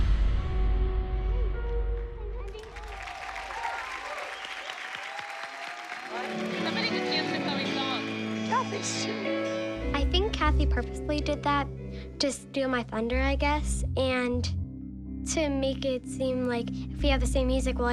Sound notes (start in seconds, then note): 2.4 cheering and applause